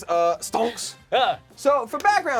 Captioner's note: loud gasping